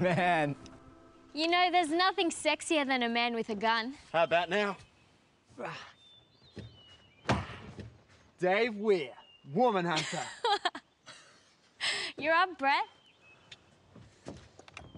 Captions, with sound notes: Man. - You know there's nothing sexier than a man with a gun? - How about now? - Dave Weir, woman hunter. (laughter) - You're up, Brett.